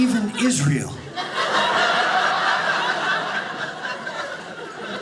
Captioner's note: audience laughing